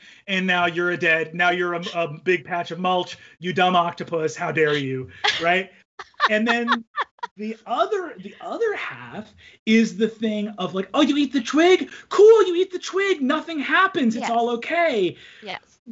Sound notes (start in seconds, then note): 6.0 laughs